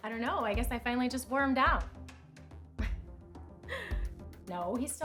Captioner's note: chuckles